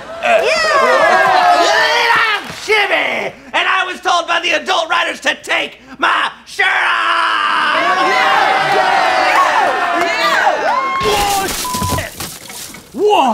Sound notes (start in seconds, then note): 8.3 group cheers; 11.6 beep